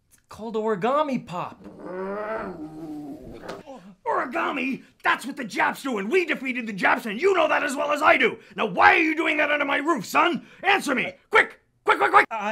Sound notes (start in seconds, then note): 1.6 General Bedfellow growling